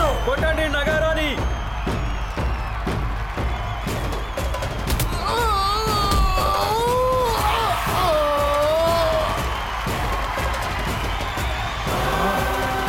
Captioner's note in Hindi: तालियाँ